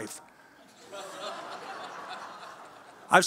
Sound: audience laughs

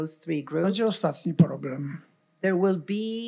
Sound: foreign language

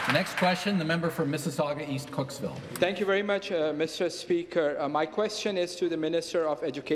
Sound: some Applause

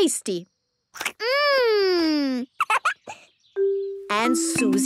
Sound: giggles

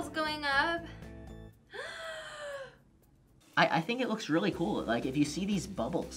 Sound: gasps

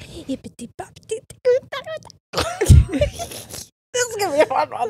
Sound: both laughing

